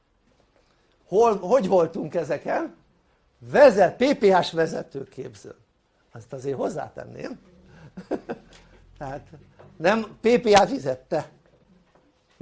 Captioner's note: laughter